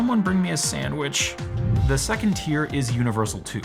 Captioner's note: air whooshing